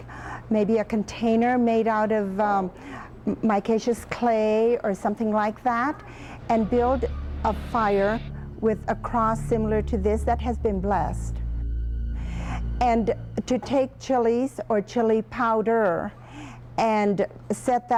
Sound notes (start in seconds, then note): 11.8 dramatic echo